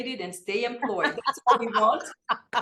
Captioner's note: laughs